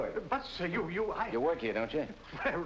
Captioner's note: stammering